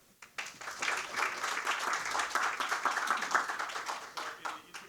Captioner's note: audience applauding